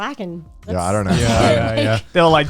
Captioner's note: guys humming in agreement